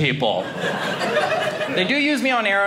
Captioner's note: audience laughing